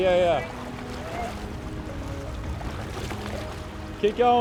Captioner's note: water splashing